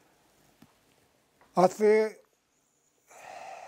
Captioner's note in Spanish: suspira